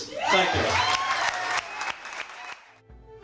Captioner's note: crowd Cheers